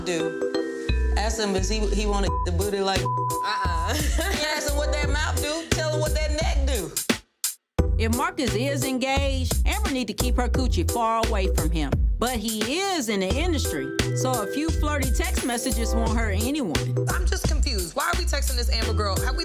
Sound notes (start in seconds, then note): 3.0 beeps; 3.7 laughs